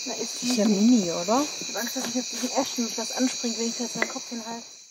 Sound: females speaking German

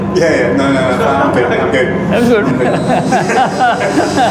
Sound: chuckle

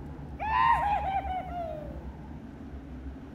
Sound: war cry

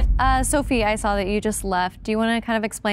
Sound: timer beeping

